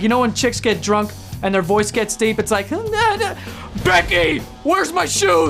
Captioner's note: sound effects